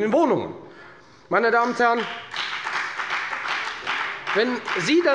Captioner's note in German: Beifall bei der FDP